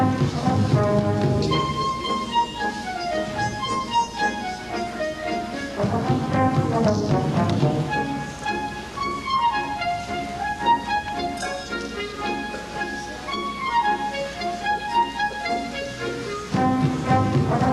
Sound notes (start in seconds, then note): none